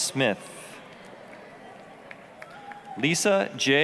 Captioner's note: applause